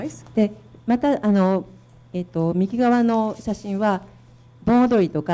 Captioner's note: speaking foreign language